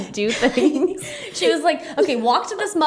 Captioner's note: laughs